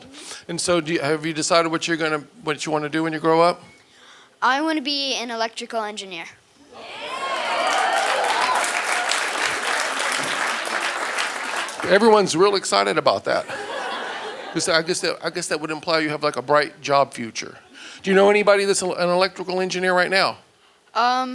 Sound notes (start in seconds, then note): 6.8 audience applauding